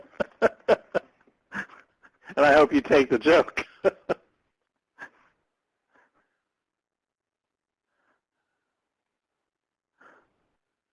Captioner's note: laughing